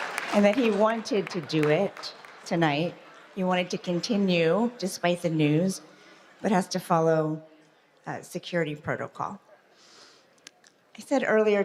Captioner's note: applause